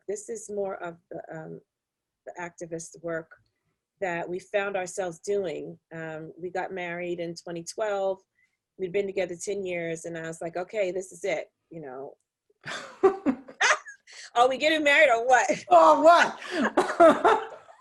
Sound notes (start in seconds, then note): 12.2 all laugh; 16.4 chuckles